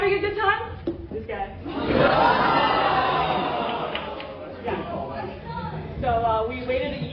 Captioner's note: laughter